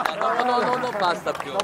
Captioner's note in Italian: Applauso